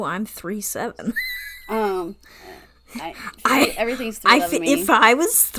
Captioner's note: laughs